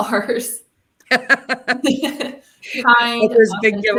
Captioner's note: laughter